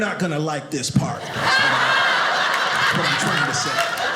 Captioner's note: audience laughing